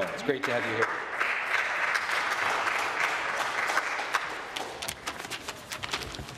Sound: applause

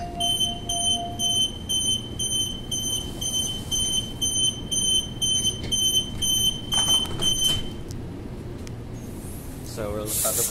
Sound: beeps

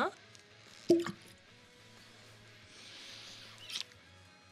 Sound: cork pops

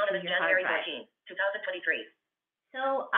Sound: VoiceOver voice

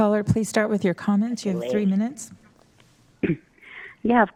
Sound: phone ringing

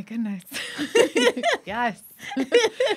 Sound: laughing

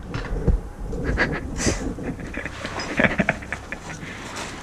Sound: laughing

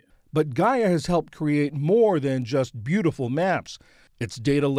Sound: voice-over

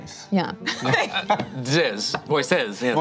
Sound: laughs

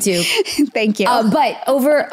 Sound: laughs

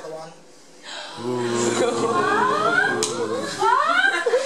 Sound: jeers

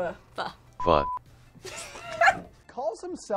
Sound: laughs

